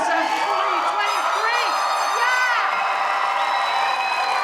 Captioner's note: audience cheering